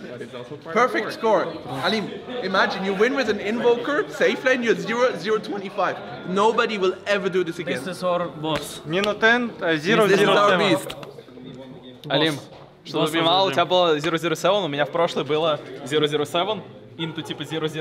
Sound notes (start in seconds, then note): 12.0 people speaking in Russian